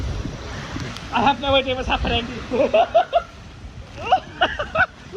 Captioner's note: laughs